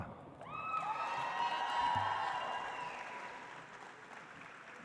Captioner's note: audience applauds